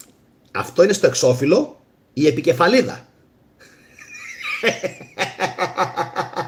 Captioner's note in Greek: γέλια